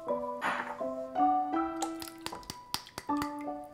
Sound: pouring

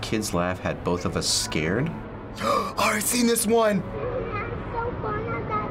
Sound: gasps

